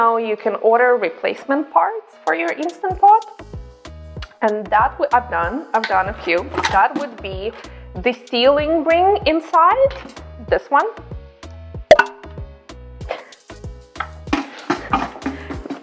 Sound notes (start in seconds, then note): 11.8 popping; 13.1 chuckling